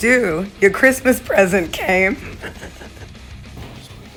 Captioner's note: chuckles